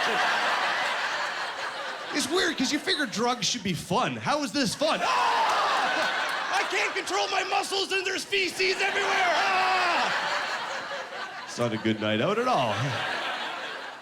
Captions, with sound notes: (Laughing) It's weird because you figure drugs should be fun. How is this fun? (Screaming) "I can't control my muscles and there's feces everywhere!" (Screaming) It's not a good night out at all.